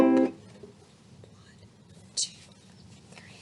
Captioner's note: whispers 1, 2, 3